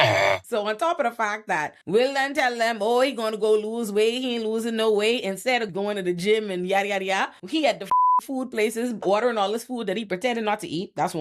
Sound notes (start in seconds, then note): 7.9 beep